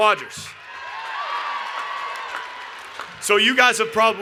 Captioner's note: cheers and Applause